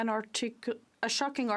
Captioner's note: speaking French